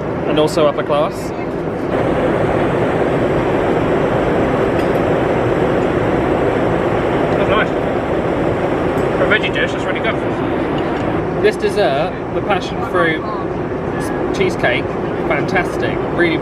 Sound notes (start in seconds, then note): 2.0 engine rumbling